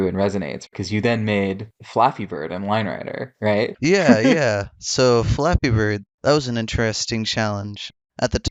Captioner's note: laughs